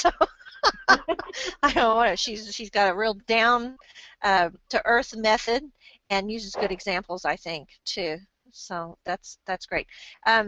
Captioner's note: laughs